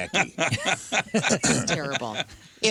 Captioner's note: laughing